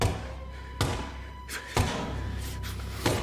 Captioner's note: muttering